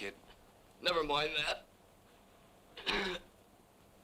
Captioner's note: groans